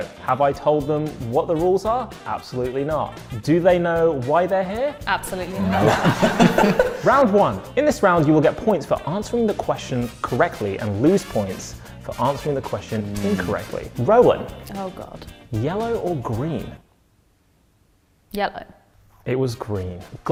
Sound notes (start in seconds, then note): 5.5 laughing